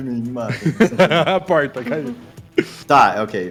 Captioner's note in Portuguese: Risadas